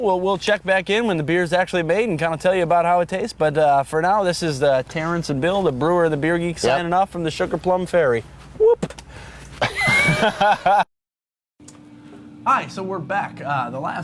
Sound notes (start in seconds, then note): 9.6 both laughing